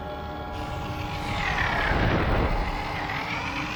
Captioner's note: beetles whirring